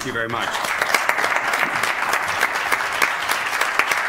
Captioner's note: applause